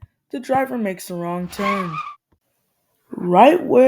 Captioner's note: screee